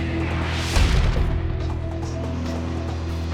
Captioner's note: logo crashing effect; brassy music